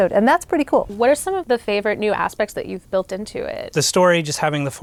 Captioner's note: none